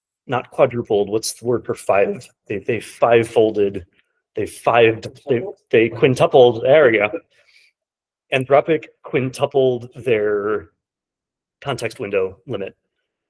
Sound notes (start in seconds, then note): none